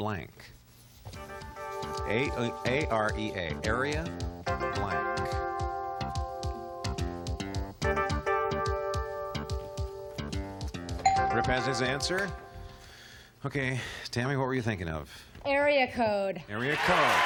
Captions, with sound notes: Area, blank. A-R-E-A blank. [ding] Rip has his answer. OK Tammy, what were you thinking of?